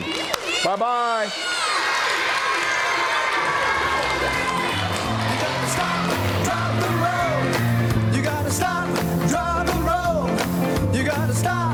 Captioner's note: applause